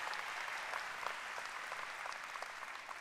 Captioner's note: applause